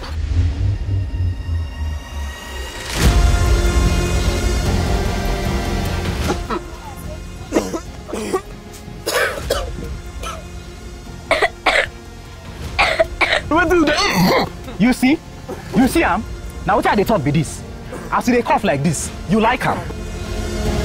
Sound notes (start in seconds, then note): 0.1 pensive tense music; 6.2 uncontrolled coughing; 20.6 rising music